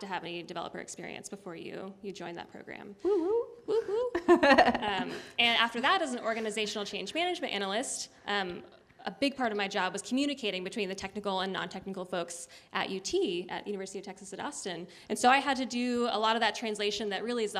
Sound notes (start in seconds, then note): 3.7 laughter